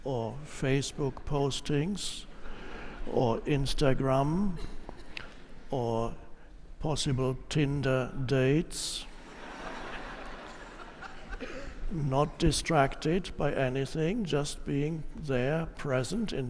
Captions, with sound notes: or Facebook postings, or Instagram, or possible Tinder dates. (audience laughs) Not distracted by anything, just being there, present,